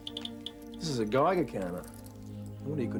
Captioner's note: device beeps